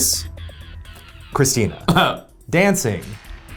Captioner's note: chuckles